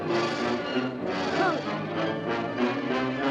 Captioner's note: groans